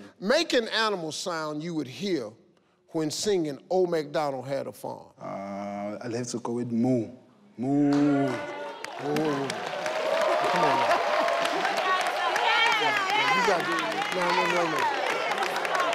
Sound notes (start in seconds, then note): 8.4 audience cheering; 10.4 laughing